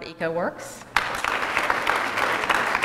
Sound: applause

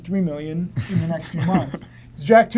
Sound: laughs

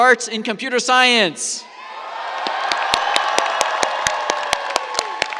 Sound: cheers, applause

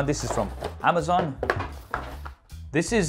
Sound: box clattering

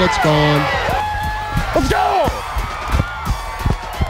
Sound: crowd cheering

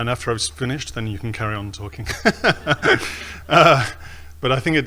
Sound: laughs

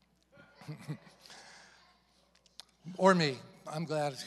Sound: congregation chuckles

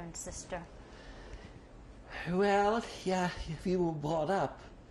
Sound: sighs

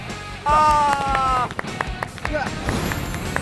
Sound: applause

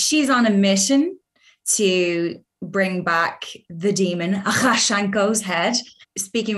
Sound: speaking Sangheili

